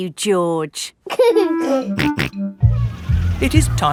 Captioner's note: giggling and snorting